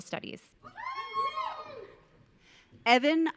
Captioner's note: audience cheering